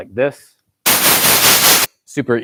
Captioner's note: static